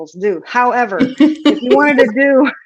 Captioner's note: chuckles